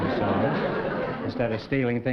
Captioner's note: laughter